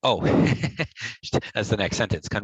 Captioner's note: laughs